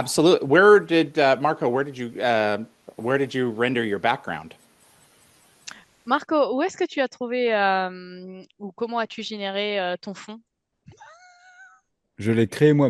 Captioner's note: translating from French